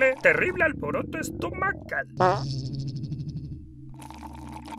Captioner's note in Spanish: Su estomago gruñe y suelta un gas